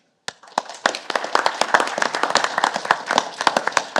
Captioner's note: audience applauding